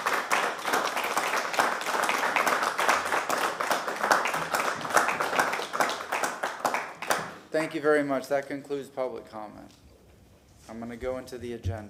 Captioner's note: applause